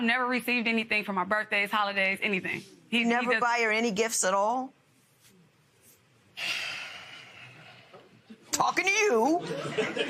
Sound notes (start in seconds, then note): 6.4 sighs